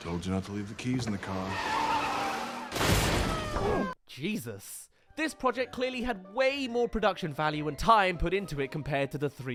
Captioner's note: crash